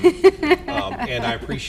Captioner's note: laughing